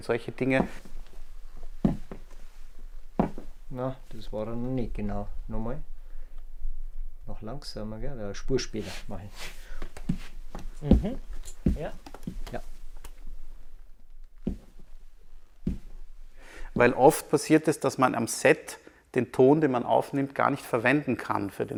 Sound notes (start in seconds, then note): 3.0 footsteps